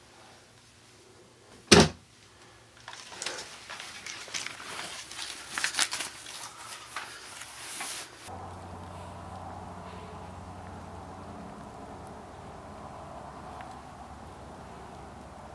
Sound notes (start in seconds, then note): 1.8 safe door closes